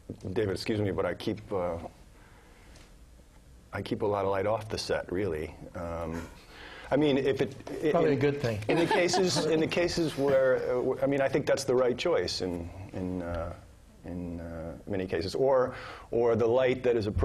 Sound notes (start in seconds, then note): 8.7 laugh